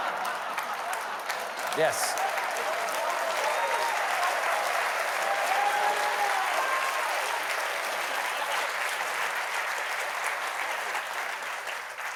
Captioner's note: applause